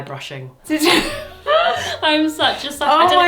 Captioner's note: pair laughs